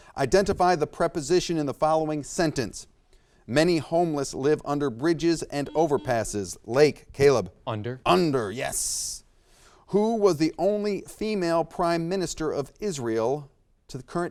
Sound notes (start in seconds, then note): 5.6 buzzer beeps